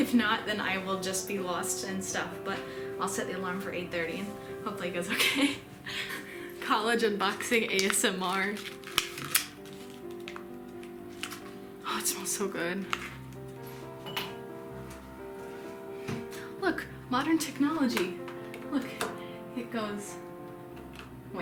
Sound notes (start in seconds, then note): 9.7 ASMR noises